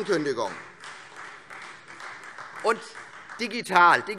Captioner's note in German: Beifall Freie Demokraten